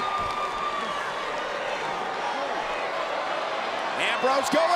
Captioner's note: crowd murmuring